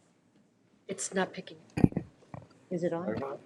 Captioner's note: mic thudding